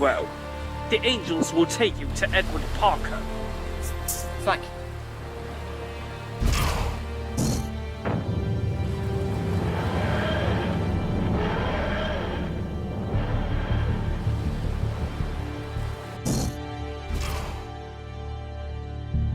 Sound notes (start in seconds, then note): 7.3 sighing; 8.0 whooshing